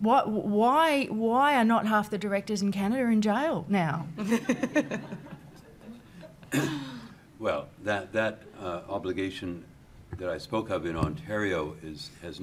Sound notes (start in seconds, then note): 4.3 laughing